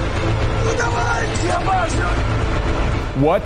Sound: intense music; yelling

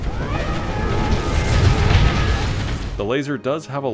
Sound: angry lobster noises

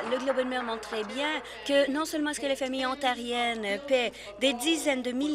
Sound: applause

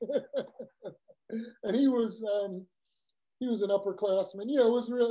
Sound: laugh

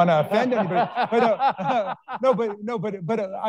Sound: all laughing

